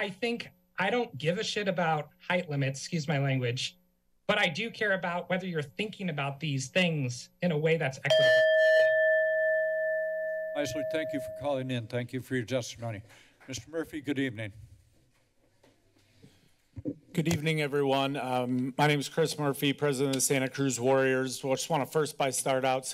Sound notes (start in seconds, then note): 8.1 timer sound